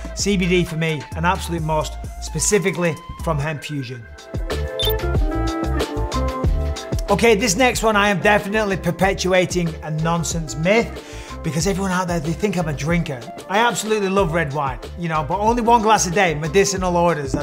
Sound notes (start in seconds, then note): 4.4 relaxed music; 4.7 graphic blips